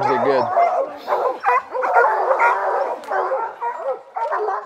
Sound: dogs barking

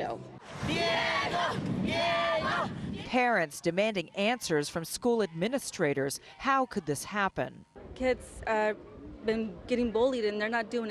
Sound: chanting "diego, diego, diego"

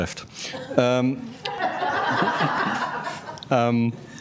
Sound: laughter from audience

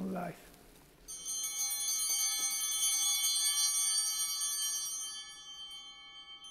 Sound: bell ringing

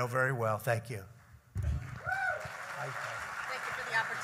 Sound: applause

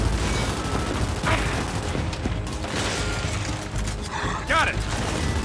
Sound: gun fires

